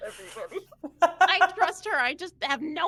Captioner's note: laughing